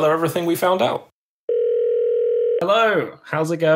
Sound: phone ringing

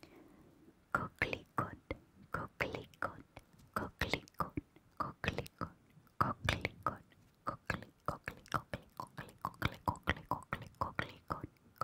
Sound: French

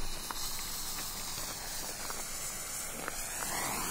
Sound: hissing

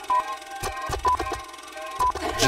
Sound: sound of projector

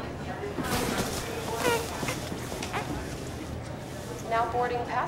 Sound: baby cooing

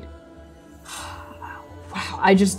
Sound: sighing

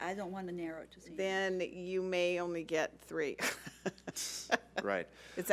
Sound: laughs

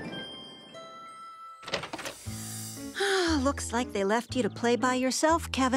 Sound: sigh

